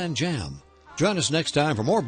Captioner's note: voiceover